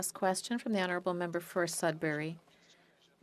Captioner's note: speaking French